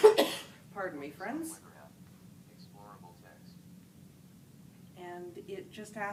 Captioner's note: coughs